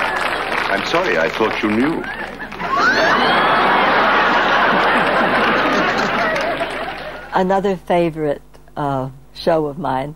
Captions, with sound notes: I'm sorry, I thought you knew. (audience laughing) Another favorite show of mine